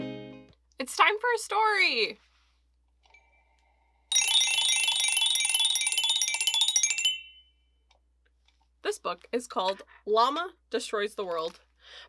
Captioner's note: bell sound